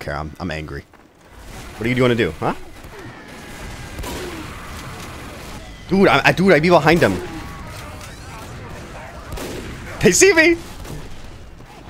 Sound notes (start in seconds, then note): 3.3 guns firing; 7.4 guns firing